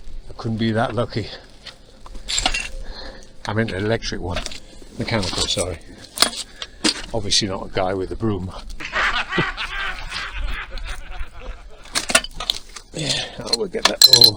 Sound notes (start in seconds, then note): 11.8 laughter